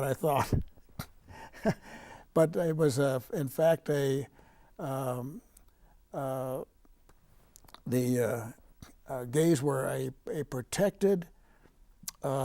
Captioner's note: laughing